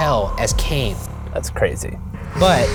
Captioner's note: voiceover